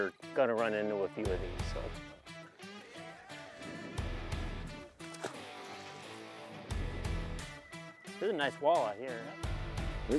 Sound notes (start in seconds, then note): 2.5 upbeat country music; 5.0 water splashing; 6.5 upbeat country music